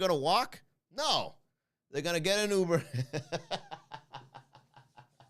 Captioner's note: laugh